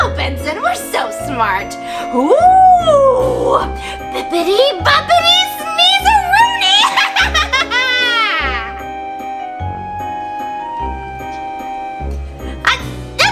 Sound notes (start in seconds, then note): 6.8 evil laughter